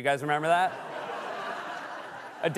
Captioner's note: laughter